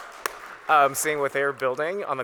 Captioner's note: audience Applauds